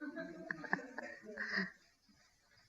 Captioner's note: laughing